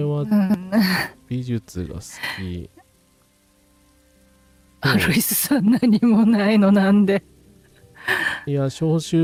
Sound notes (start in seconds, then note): 6.4 laughs